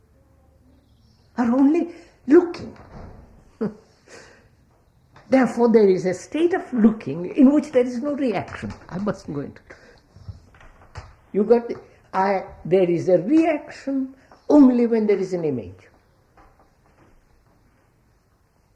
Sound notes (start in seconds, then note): 3.8 laughs